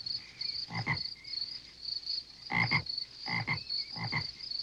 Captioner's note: Gus croaking